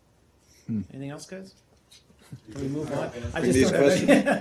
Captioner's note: laughter